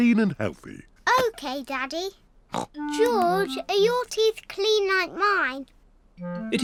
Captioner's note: snorts